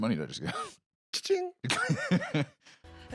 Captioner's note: laughs